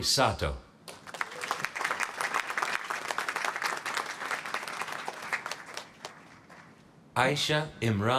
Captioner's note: applause